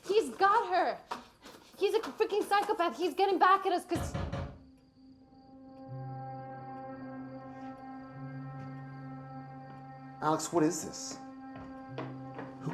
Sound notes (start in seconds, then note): 4.0 tense music; 4.8 knuckles rapping